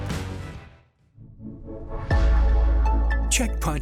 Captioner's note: announcer voice